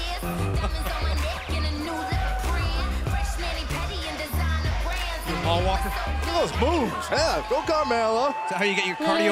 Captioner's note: laughter